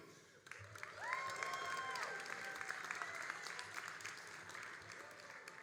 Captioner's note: all applauding and cheering